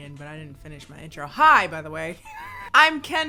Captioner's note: laughs